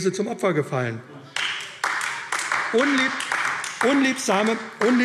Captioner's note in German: Beifall AfD